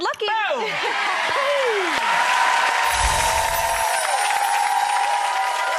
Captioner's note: clapping and cheers